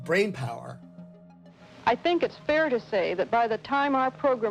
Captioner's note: soundbite of archived recording